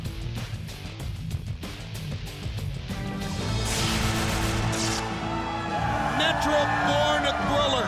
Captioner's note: crowd cheering